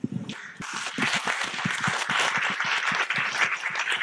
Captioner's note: audience clapping